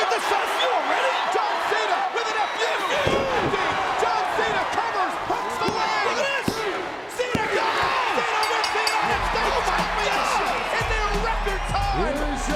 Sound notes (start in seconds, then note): 3.0 body thudding; 3.8 crowd cheering; 4.3 hands thudding; 8.2 crowd cheering; 8.3 bell ringing; 11.5 crowd cheering; 11.5 upbeat music